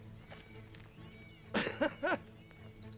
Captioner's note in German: Lachen